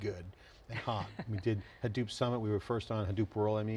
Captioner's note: laughing